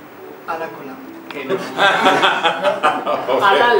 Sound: laughs

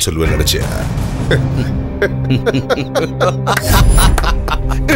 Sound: laughs

